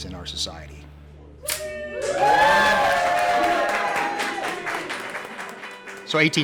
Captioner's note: cheers & applause